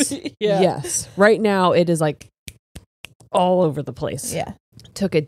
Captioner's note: all laughing; snaps